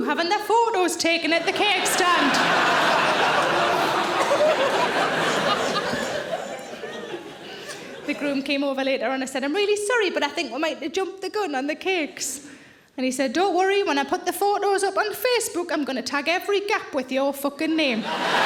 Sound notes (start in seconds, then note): 1.3 audience laughs; 18.0 audience laughs